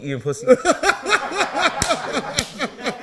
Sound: laughing

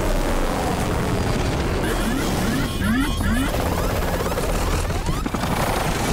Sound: beeping, alarms blaring

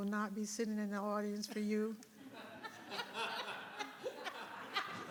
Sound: audience laughing

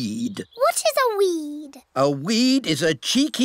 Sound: none

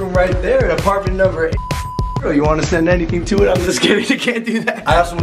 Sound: beep

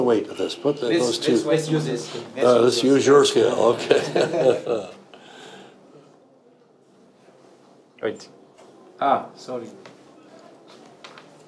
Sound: chuckles

